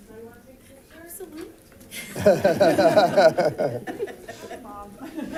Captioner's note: group laughs